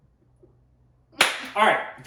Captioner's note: claps